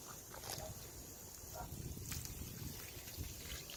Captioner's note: liquid pouring